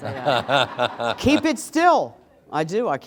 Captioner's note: laughter